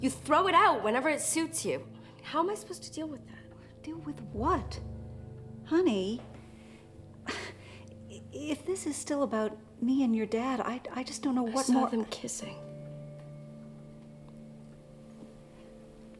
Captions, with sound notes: and then you just... You throw it out whenever it suits you. How am I supposed to deal with that? Deal with what? Honey. (SIGHS) If this is still about me and your dad, I just don't know what more... I saw them kissing.